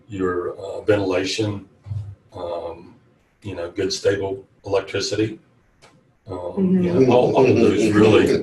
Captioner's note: all laugh